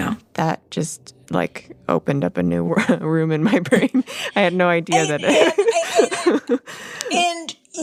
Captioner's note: laughs